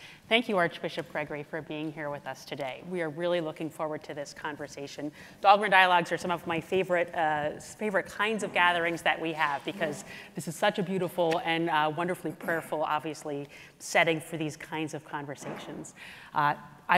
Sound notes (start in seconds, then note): none